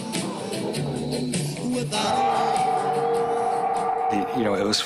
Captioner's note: howling